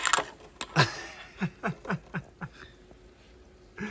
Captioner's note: laughs